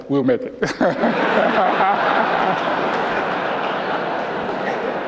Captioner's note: laughter